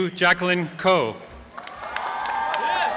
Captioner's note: applause and cheering